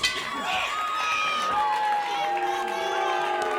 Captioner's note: bell ringing; crowd cheering; crowd chatter